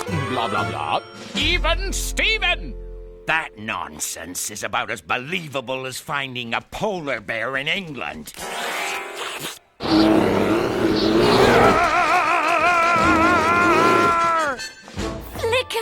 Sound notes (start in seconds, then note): 9.8 slurping; 9.8 roaring; 12.0 screaming